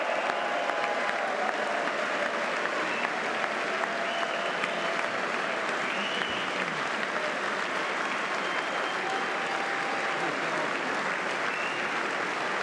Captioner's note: cheers